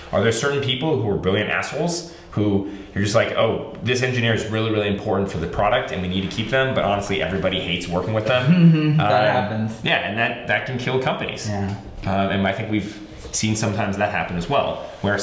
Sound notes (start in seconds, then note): 8.2 laughs